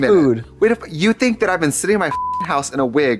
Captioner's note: beep